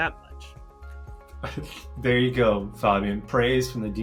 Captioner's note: chuckles